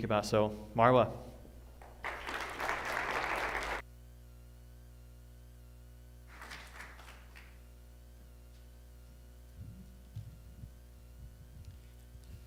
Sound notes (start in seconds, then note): 1.8 applause